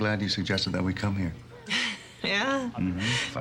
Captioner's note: laughs